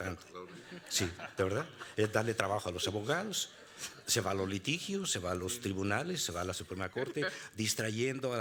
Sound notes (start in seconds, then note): 0.8 laughing; 2.6 speaking Spanish